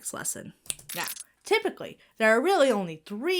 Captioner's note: Bill snaps fingers